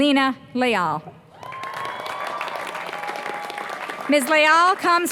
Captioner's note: applause